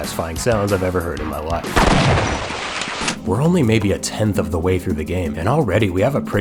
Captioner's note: b-boom